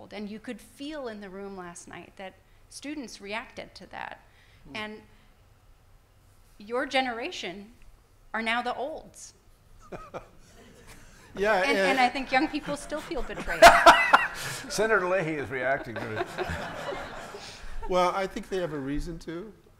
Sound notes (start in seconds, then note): 10.0 laughing; 13.8 laughing; 16.4 everyone laughing